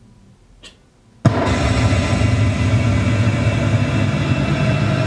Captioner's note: gunshot; eeriness - like a gunshot slowed down an stretched, in a huge, echoing hall